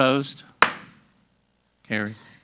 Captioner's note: gavel bangs